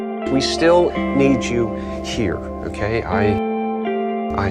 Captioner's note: voiceover